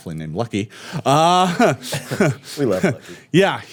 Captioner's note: laughing